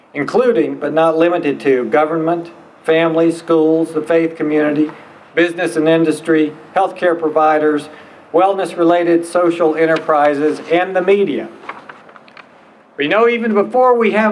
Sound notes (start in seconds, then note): none